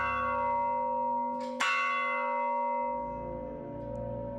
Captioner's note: bell ringing